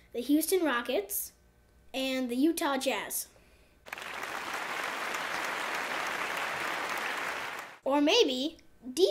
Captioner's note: clapping